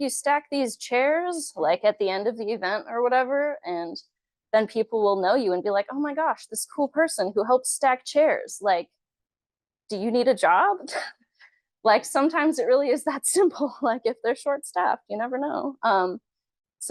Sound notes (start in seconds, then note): 10.9 chuckles